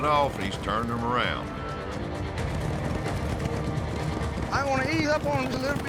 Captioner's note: hoofbeats